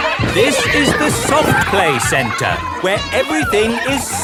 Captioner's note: loudly over shouting